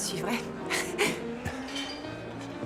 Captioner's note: chuckling